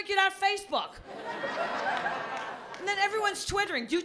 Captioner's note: laughter